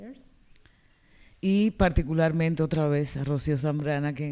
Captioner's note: speaking spanish